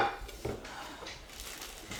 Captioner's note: sighs